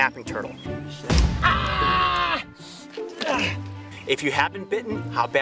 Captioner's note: screams in pain